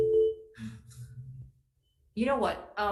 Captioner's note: phone ringing